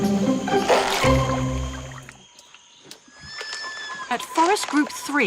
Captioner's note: Beni splurts water